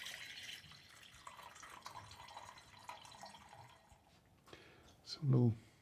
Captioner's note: coffee trickling steadily